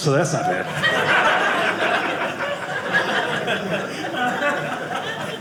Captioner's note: audience laughing